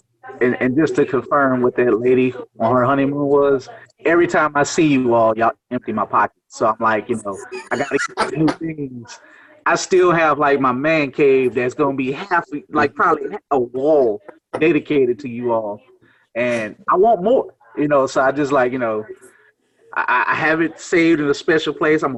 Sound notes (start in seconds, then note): 7.2 laughs